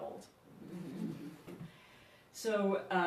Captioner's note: audience chuckles